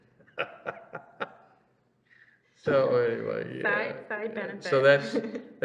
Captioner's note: laughs